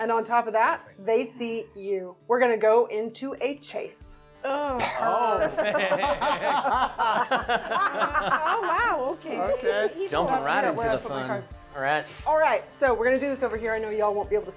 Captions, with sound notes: And on top of that, they see you. We're going to go into a Chase. Oh Oh Perfect. (laughing) Oh wow! Ok. Jumping right into the fun. All right. All right, so we're going to do this over here.